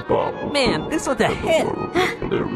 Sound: gasp

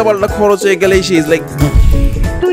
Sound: bam

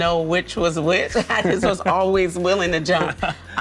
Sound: laughs

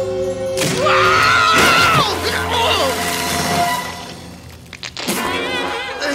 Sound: screaming; spitting

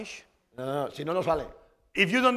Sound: speaking spanish

